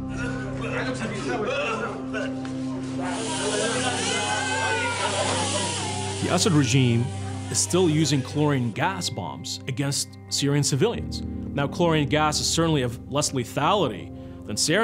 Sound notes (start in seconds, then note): 0.0 coughing; 3.1 crying